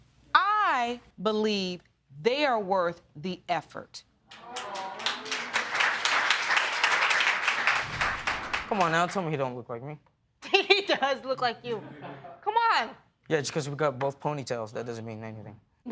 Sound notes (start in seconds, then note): 4.3 audience applauding